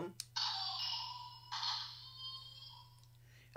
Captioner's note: electronic sound effect